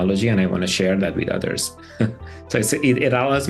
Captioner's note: laughter